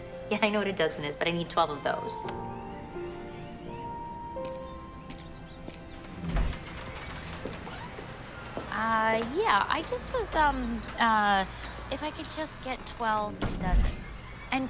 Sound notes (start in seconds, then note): 6.8 door squeaking